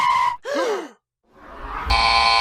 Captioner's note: bow & the floor gasp; buzz